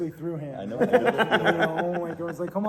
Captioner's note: laughing